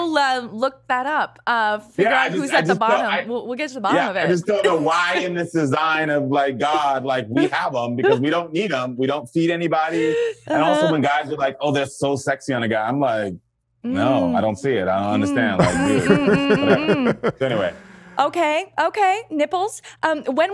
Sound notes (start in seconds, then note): 15.2 Justin laughs